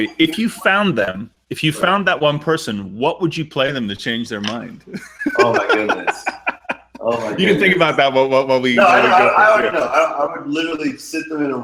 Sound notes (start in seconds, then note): 4.7 laughing